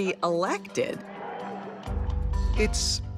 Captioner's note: crowd applauding